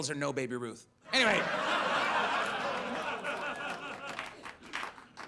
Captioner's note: audience laughs